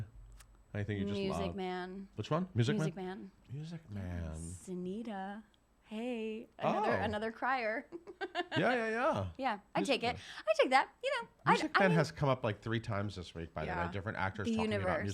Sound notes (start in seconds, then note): 7.8 giggling